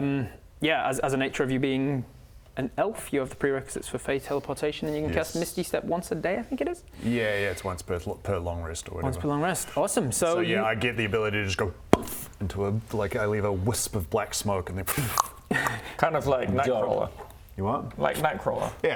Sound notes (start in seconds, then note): 11.9 poof!; 14.9 pfff